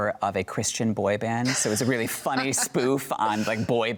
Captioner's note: laughs